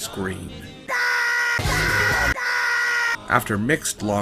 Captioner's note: rabbids screaming oh god make it stop